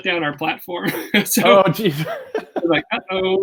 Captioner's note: laughs